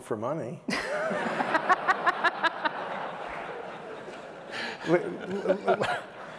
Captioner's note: laughter